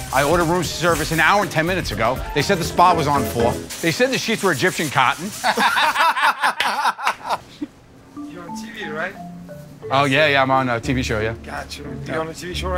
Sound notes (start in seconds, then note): 5.3 laughter